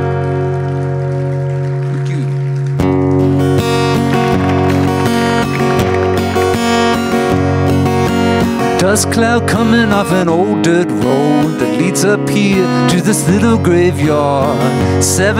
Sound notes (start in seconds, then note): 0.0 audience applauding; 5.0 upbeat acoustic music